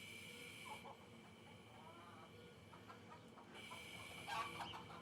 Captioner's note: chicken clucking